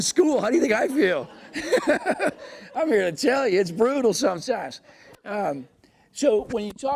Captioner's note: laughs